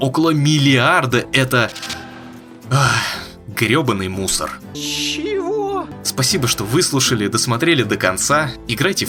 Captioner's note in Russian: вздох